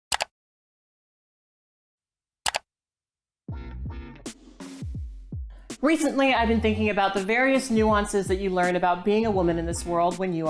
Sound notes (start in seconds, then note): 0.3 mouse clicking; 3.6 gentle upbeat music